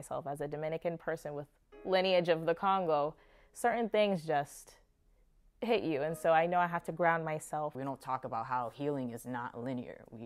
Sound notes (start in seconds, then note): none